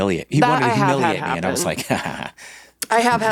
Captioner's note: laughs